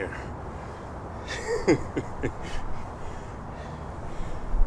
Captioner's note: laughing